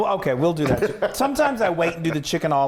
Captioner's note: laughing